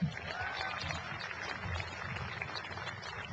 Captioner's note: applause